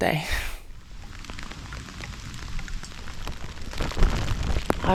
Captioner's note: rain